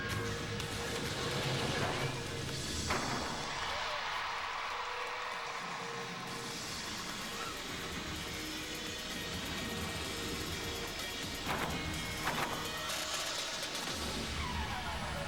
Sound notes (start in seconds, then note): 1.8 cheers